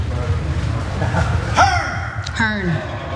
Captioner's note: laugh